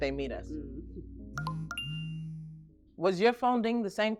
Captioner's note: mobile notification